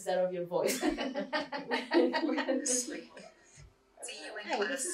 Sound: laughter

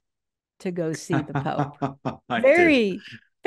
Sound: Jonathan laughs

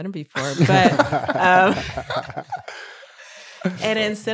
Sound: laughing

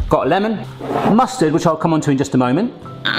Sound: none

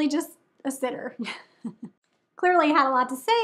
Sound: woman giggling

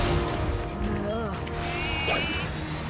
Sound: moans

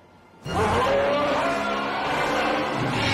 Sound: monster screeching

